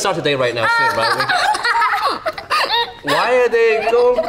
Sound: laugh

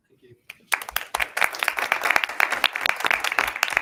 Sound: all clapping

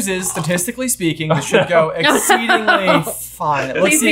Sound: laughing

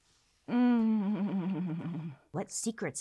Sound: humming

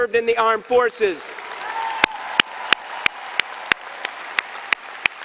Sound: applause and cheering

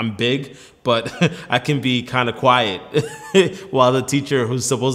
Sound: laughs; laughs

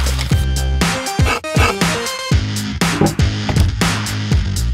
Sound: dramatic music; pencil scribbling

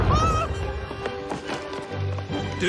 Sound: rex shrieks

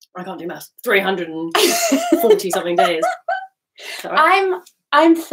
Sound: laughing

